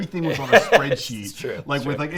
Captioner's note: laughs